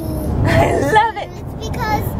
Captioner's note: laughs